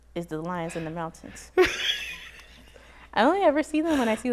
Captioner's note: laughs